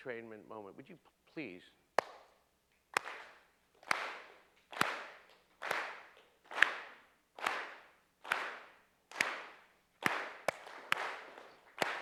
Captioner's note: audience clapping in rhythm